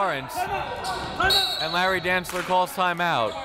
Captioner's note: whistle